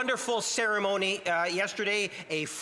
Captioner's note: speaking alternate language